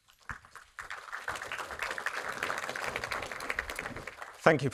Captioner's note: audience applauds